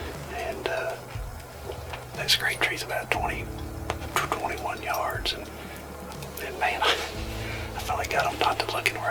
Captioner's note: whispering